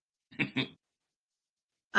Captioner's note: laugh